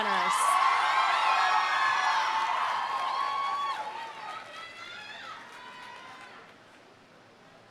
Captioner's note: audience cheering; audience applauding